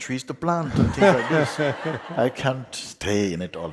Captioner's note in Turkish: Daha fazla kahkaha, soru soran güler